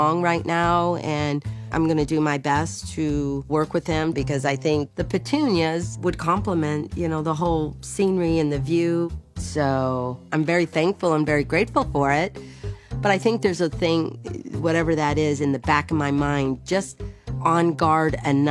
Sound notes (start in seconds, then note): none